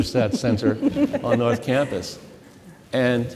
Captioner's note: laughing